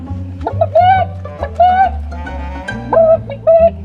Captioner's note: clucks